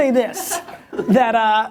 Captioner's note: laughter